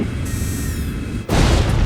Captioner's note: parachute blasts loudly; radio buzzes; loud explosion